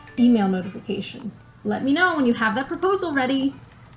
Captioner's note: notification sound trills